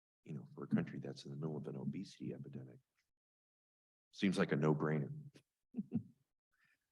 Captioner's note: chuckles